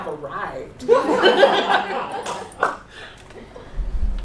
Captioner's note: laughter